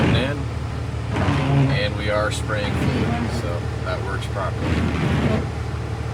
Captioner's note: wiper swiping